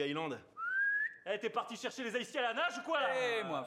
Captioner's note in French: sifflement